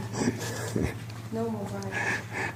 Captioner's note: laughing